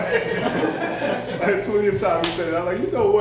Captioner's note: laughter